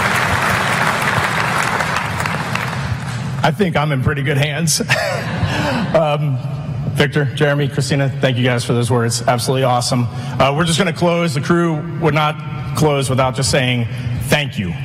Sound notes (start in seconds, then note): 4.8 laughter